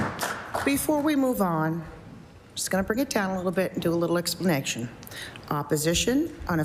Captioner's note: applause